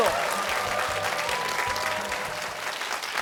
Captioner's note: cheers and applause